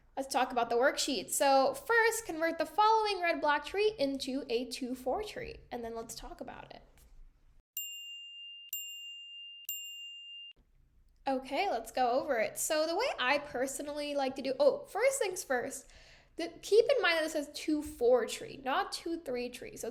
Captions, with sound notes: Let's talk about the worksheet. So first, convert the following red block tree into a two-four tree, and then let's talk about it. [CHIMING] Okay, let's go over it. So the way I personally like to do-- oh, first things first. Keep in mind this is two-four tree, not two-three tree.